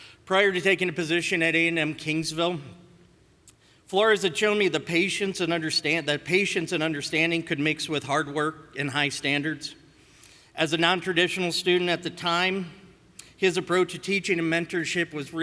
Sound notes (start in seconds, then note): none